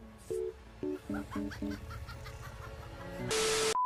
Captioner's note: maniacal Laugh